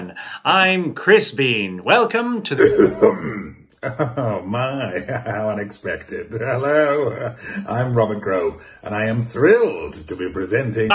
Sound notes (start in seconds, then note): 2.5 coughs